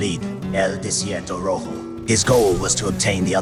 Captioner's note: Spanish